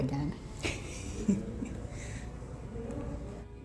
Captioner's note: chuckles